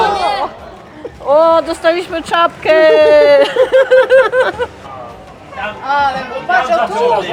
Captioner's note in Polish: śmiech